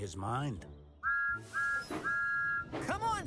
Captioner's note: toot-Toot-Toot!